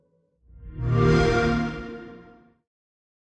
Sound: Xbox Sound

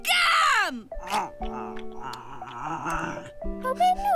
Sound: chews and grumbles

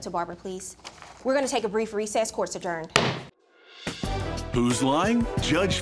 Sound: gavel banging

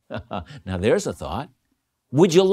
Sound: laughing

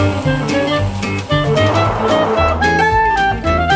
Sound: notification

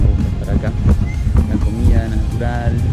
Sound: bird squawk confirm

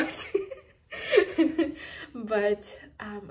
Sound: laughing

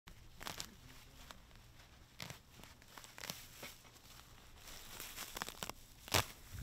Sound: grass pulling

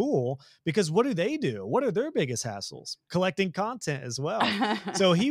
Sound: laugh

